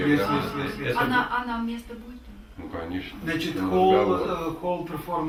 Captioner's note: speak in the Russian language